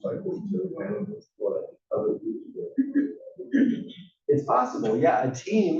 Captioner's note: cough